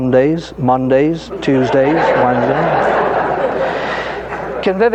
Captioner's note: audience laughing